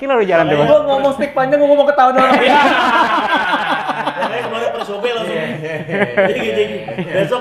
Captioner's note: laughs